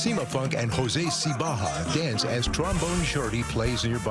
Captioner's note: exclaims